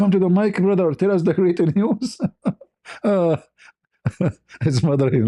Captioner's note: ketawa